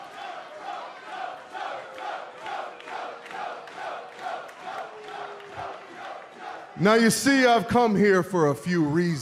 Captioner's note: fans chanting